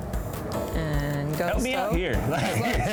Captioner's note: laughs